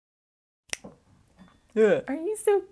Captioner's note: clink noise